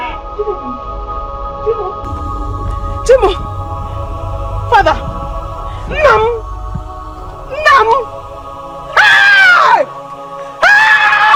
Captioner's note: screaming